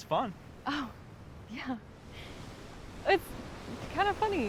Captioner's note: laughs